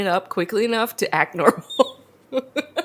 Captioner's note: laughs